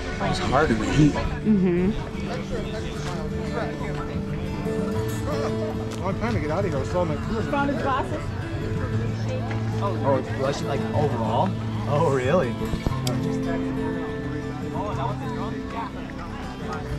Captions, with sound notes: - It was hard in the heat. - Mm-hmm. (people chattering) - Long time to get out of here. I was still on- - You found his glasses? - Oh, like overall? - Yes. - Oh really? - Yeah. (people chattering)